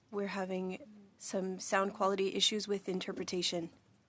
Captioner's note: speaking French